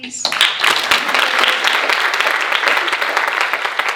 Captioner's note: audience applauding